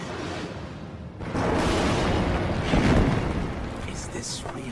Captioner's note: ceiling collapse